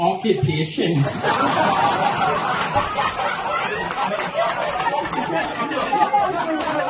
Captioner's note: laughter